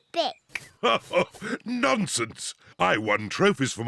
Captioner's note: laughs